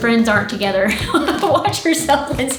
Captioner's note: laughing